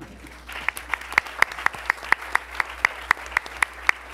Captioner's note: attendees applauding